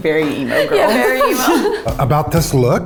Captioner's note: laughs in background